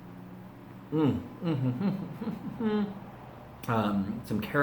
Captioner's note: slurping noise; humming